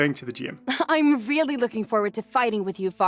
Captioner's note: chuckles